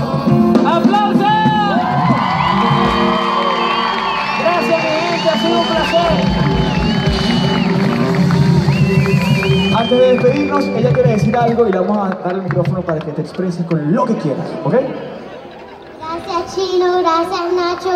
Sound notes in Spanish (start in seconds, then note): 3.0 gritos